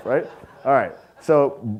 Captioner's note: audience laughing